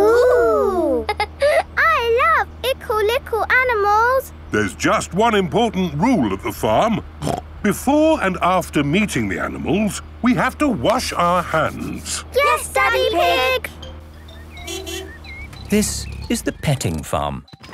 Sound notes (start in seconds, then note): 14.0 honking